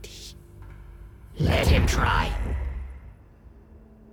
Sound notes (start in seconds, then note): 1.0 in English, distorted